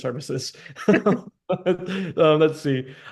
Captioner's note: chuckle